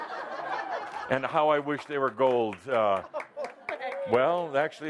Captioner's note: laughter